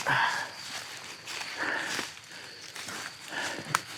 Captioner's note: panting